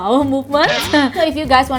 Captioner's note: awkward laughter